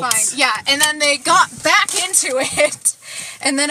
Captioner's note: laughing